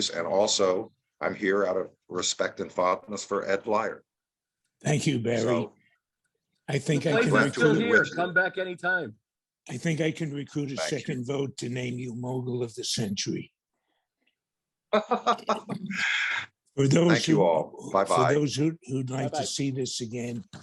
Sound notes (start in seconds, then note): 14.9 Barry laughs